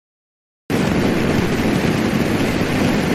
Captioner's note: rocket whooshes